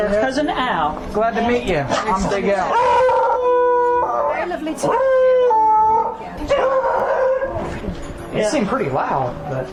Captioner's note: loud Barking